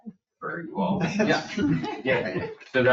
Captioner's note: people chuckle